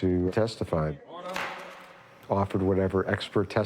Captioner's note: judge's gavel hit